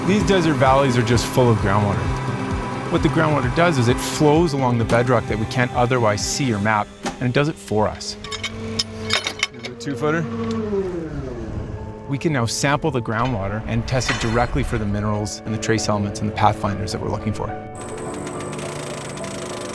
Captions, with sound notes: - These desert valleys are just full of groundwater. What the groundwater does is it flows along the bedrock that we can't otherwise see or map, and it does it for us. (pipes banging) (hydraulic pump) We can now sample the groundwater and test it for directly for the minerals and the trace elements and the pathfinders that we're looking for.